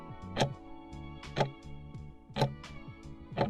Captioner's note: timer ticking